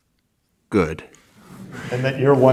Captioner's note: audience laughs